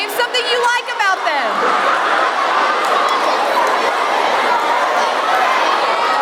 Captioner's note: children talking loudly